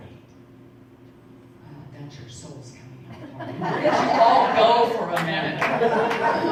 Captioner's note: audience laughing